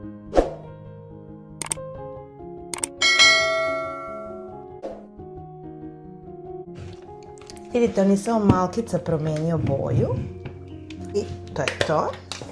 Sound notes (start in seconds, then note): 3.0 chimes